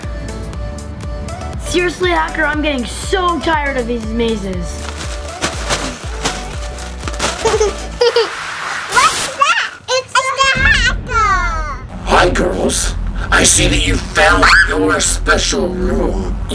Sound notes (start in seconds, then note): 4.9 plastic rustling and giggling; 8.0 static sound